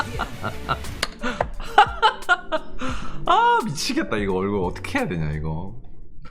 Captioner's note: burst into laughter